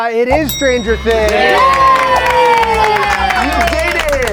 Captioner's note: all cheering